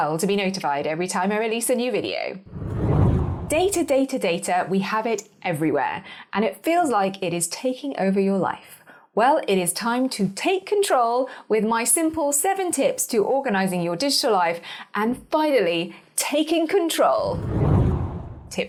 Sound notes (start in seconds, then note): 2.4 air whooshing; 17.2 air whooshing